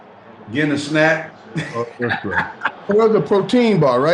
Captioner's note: laughs